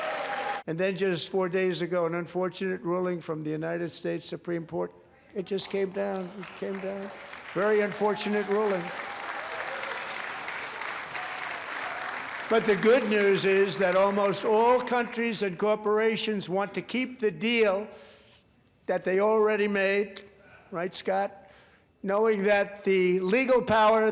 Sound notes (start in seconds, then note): 15.1 applause